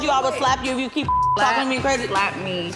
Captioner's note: beep